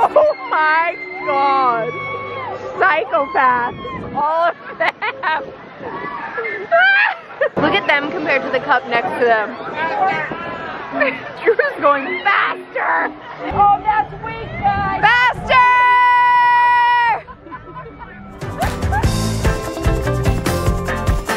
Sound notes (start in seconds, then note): 5.9 screams; 10.6 laughs; 18.3 upbeat music